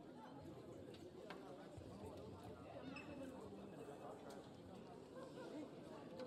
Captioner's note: people chatting indistinctly